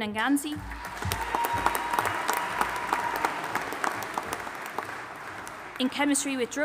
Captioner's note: audience applauding and cheering